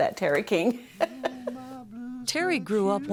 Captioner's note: laughter